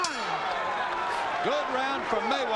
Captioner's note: bell rings